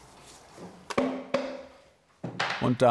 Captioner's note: thud knocking